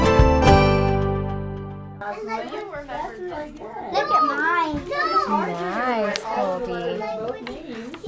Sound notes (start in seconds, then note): 1.9 background chatter